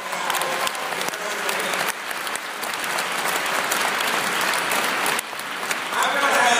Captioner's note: applause